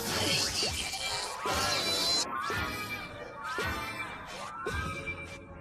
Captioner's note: squealing